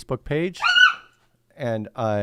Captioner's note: dog yelps